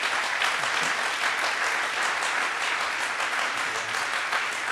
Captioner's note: audience applauds; audience applauding